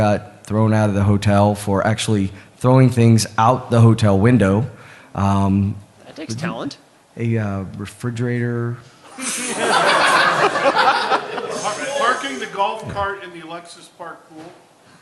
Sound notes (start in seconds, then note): 9.1 laughter